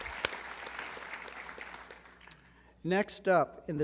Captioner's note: applause